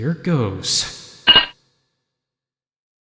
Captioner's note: clink!